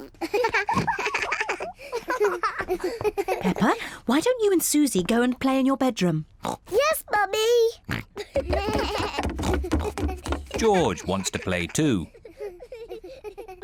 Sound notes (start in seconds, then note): 0.2 both laugh; 7.8 snorts